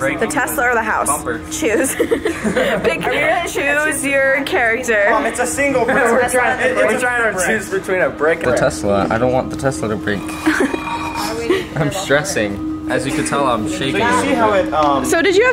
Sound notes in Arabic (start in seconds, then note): 1.7 يضحك